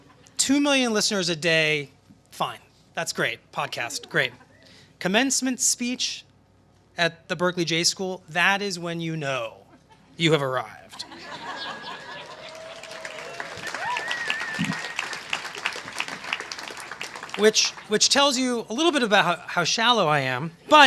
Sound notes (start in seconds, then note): 10.9 laughter; 11.8 applause